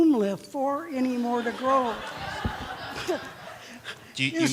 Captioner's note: laughter